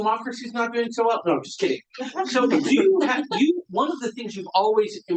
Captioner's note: audience laughing